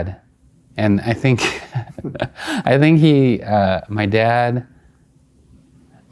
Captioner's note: laughing